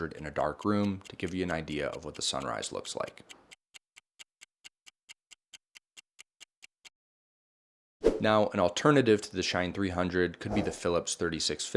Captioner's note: clock ticking